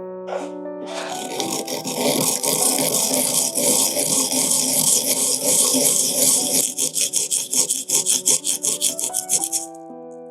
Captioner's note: rhythmic grating